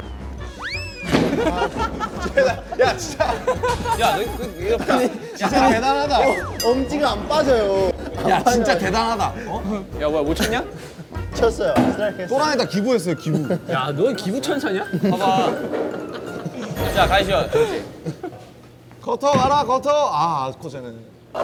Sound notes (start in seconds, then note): 3.7 بلند میخنده